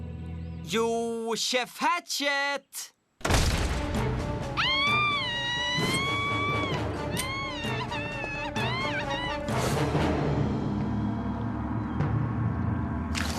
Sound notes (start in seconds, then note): 4.5 screams